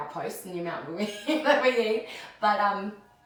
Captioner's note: laughs